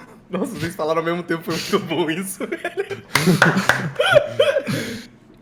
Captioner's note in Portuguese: palmas